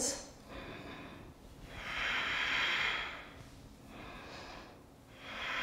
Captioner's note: heavy breathing